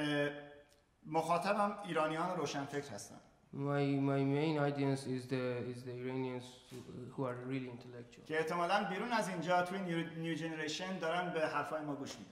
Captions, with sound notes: My main audience is the Iranians who are really intellectual. [SPEAKING IN FARSI]